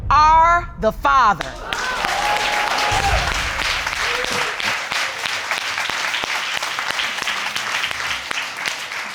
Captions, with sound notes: Are the father." (ALL APPLAUDING)